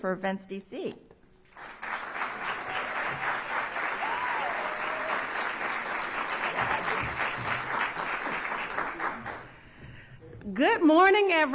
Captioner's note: applause